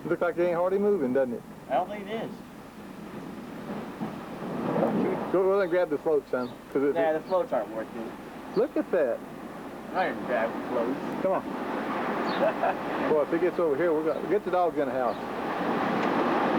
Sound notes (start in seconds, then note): 12.2 chuckling